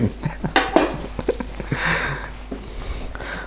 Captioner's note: laughs